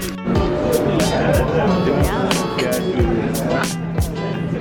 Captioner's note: restaurant chatter